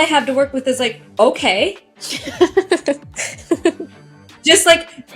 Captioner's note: giggling